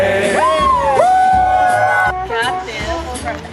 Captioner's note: shouting